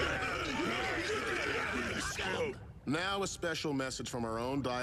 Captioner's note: all shouting